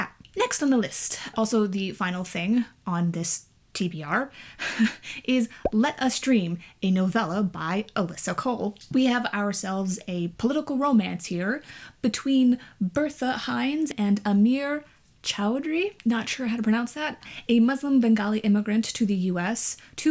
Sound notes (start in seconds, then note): none